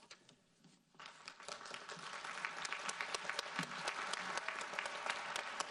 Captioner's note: audience applauds